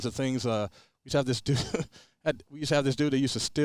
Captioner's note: chuckles